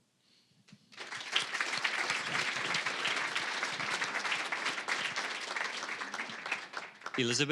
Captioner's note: applause